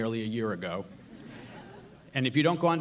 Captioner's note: audience laughs